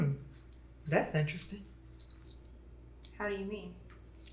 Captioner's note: none